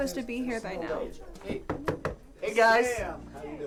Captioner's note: knocks